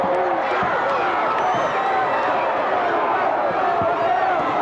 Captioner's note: crowd boos